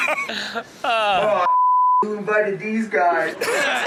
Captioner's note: beep; all laugh